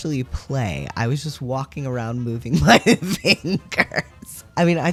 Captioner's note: laugh